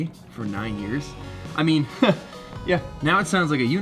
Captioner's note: chuckles